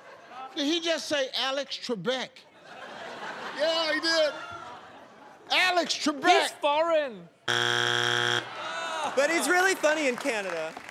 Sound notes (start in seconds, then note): 2.4 laughter; 7.4 buzzer